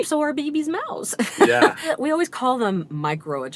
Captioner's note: laughter